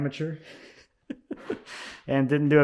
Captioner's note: laughs